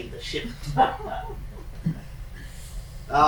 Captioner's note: chuckling